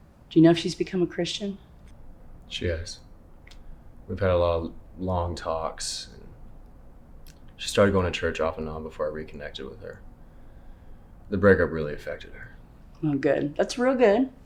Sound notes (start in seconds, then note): none